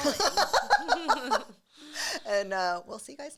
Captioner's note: both laugh